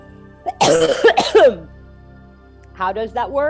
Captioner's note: coughs